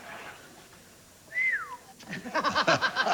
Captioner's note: whistles